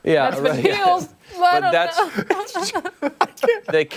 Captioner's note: laughter